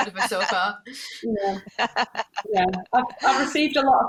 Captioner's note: chuckling